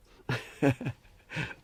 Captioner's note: laughs